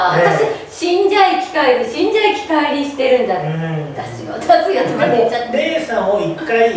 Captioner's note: laughs